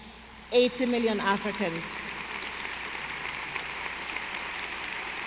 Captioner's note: audience applauding